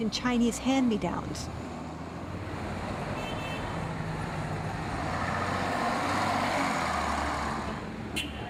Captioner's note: horn honks